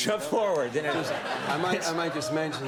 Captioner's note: laughing